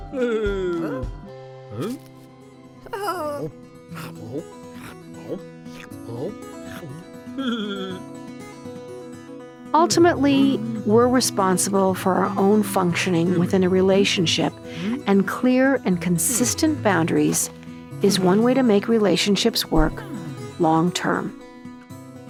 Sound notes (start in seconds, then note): 0.2 animal babbles; 3.9 animals gulping; 22.1 upbeat guitar music